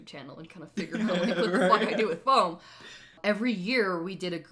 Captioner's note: laughs